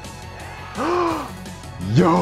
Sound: excited gasp

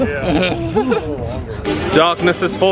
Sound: guests chuckling

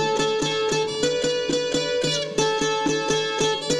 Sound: none

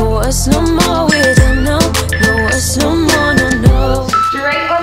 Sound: alarm beeping

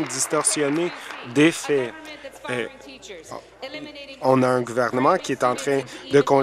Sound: applause

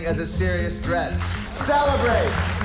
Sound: cheers

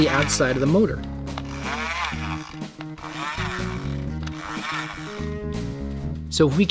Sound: motor whirring

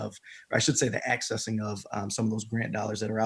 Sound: none

